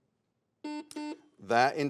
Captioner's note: buzzer sounds